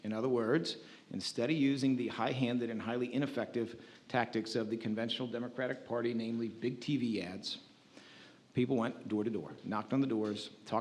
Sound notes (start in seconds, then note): none